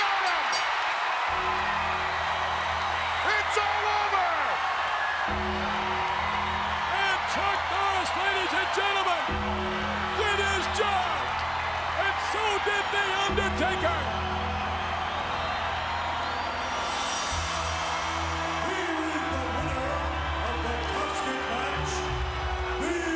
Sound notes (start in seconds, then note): 1.3 ominous music; 1.3 bell rings; 2.0 audience cheers; 13.7 audience cheers; 13.7 ominous music continues